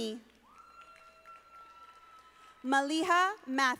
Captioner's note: audience applauding